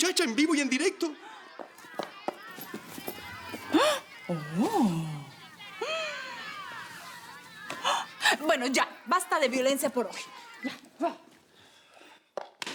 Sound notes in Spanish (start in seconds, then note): 3.7 Se oye la algarabía